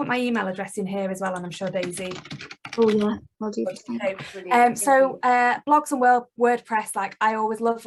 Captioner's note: typing